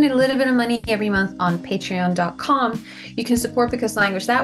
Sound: none

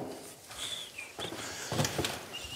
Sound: relaxed whistling

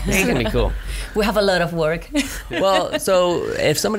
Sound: laughs

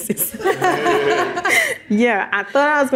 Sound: all chuckle

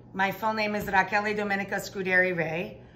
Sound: none

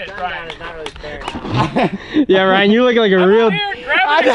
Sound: laughing

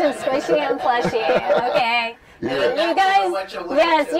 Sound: laughter and mumbling

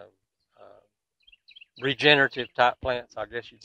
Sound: birds twittering

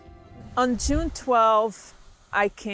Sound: whooshing

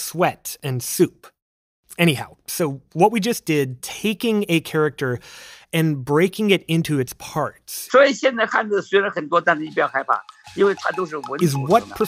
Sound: speaking Mandarin

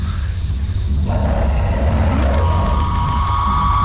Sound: roar

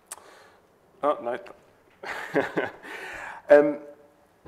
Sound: laughs

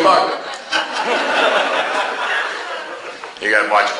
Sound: class laughs

